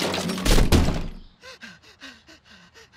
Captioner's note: breathing heavily